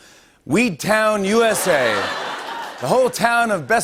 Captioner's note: laughter and applause